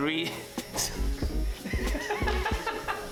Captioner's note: laughs